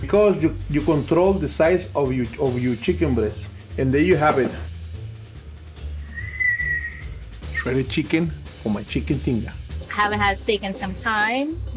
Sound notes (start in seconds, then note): 6.0 whistling